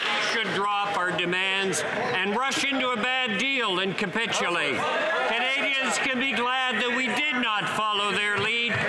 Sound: some Applause

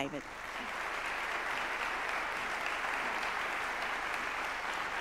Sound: audience clapping

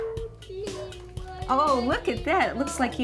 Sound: child talking

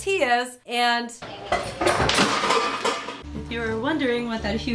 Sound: crashing noises

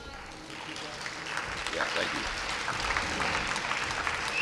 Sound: applause

